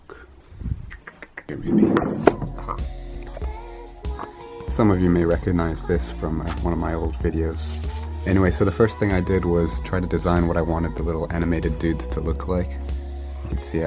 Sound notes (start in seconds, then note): 0.0 music cuts; 0.8 clicks mouth